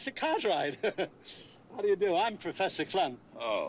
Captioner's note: chuckles